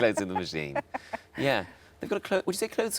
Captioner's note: laughs